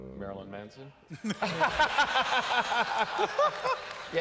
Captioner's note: laughter